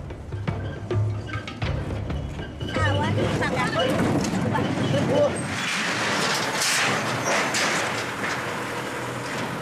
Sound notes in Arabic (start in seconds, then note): 0.0 موسيقى إيقاعية درامية; 5.9 صوت ارتطام الشاحنة